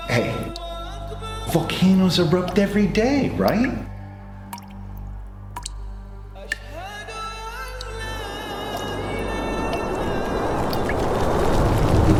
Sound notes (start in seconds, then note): 4.2 water dripping continues; 6.9 ethereal music continues; 8.2 wind howling